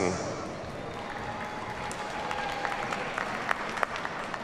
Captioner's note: audience applauds